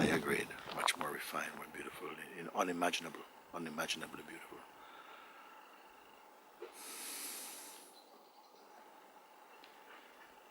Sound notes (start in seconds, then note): 6.3 sighs; 8.4 silence